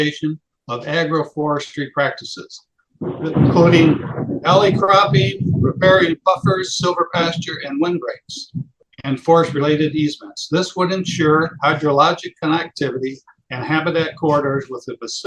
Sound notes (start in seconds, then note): 3.0 loud thunder in background; 4.0 speaking louder